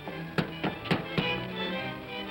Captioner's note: upbeat music; knocking on door; upbeat music